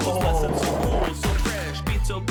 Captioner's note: laughing; pebbles rattling